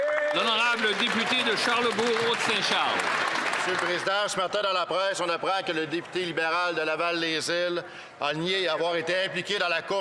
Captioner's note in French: applaudissements